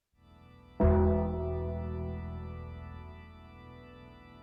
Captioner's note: bell tolls